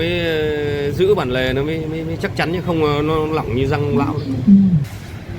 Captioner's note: haha